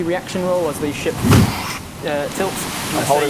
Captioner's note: boosch